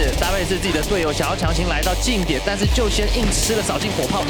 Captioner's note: speaking foreign language